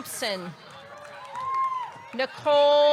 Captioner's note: audience clapping; audience cheering